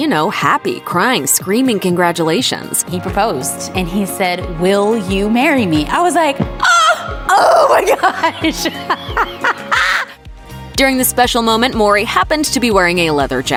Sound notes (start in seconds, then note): 6.6 laughs